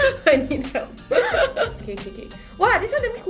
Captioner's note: laughs